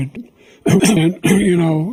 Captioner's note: cough